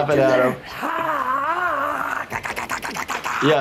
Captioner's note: Steve-O screaming; Steve-O grunting